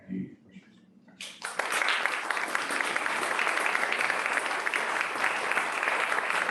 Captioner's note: applause